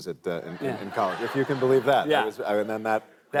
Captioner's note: laughter